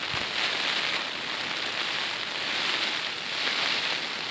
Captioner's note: rain